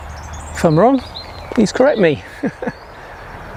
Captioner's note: laughs